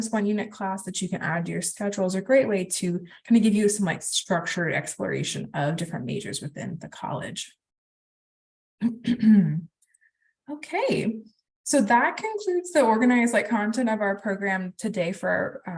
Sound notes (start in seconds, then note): 8.8 clears throat